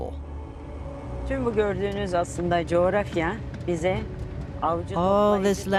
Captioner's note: speaking Turkish